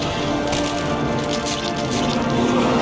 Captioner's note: splurt